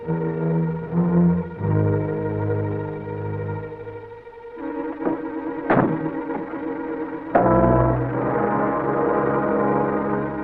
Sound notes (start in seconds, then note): 0.1 suspenseful music; 5.7 car door shuts; 7.4 suspenseful music